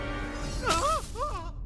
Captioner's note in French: il crie